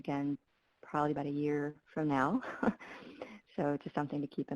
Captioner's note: laughs